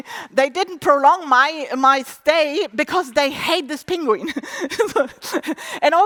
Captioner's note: laughs